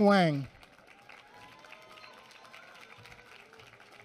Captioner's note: applause